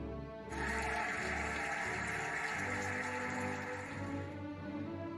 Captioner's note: cheering and applauding